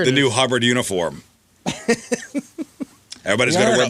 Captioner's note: laughter